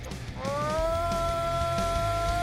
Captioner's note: shouting; upbeat music